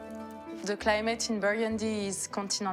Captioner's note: peaceful harp music; with French accent